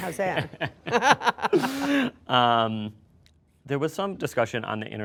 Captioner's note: everybody laughing